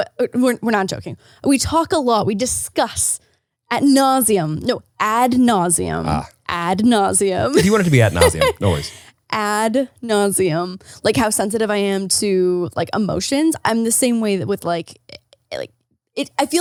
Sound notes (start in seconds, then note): 7.5 laughs